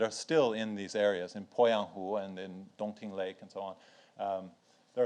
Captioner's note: speaks in foreign language